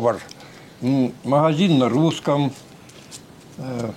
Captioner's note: speaks